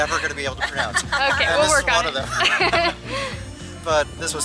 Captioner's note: laughing